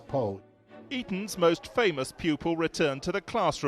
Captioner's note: voiceover